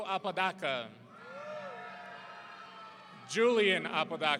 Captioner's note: audience cheering